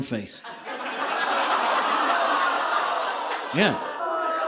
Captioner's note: audience laughing